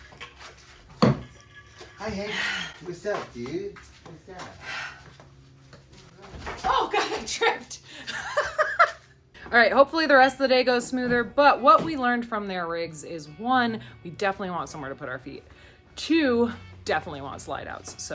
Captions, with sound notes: Hi Hank, what's up, dude? What's up? - Oh God, I tripped. (laughs) All right, hopefully the rest of the day goes smoother, but what we learned from their rigs is one, we definitely want somewhere to put our feet, two, definitely want slide outs,